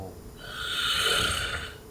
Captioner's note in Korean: 드르렁